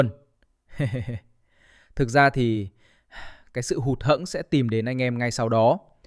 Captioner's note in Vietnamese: tiếng cười